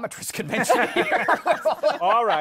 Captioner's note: laughter